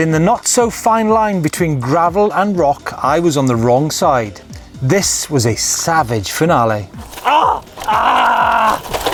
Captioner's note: screams